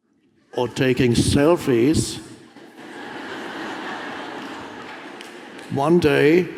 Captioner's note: audience laughs